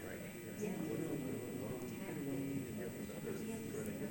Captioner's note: group chatter